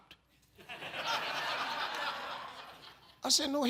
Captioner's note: audience laughs